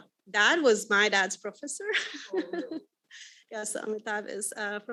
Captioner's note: laughs